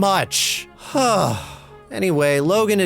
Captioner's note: big sigh